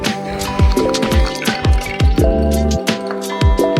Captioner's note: rattlecan rattling